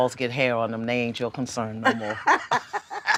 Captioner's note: both laugh